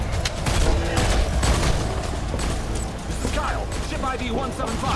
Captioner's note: gun firing